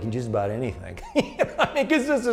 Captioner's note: laughs